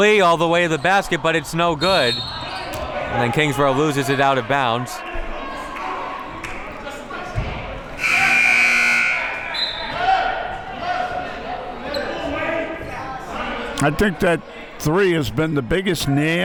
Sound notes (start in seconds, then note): 7.9 buzzer sounding